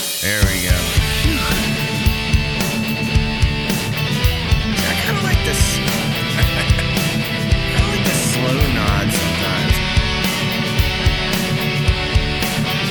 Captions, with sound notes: There we go. (upbeat music) I kinda like this. (laughs) I like the slow nods sometimes. (upbeat music)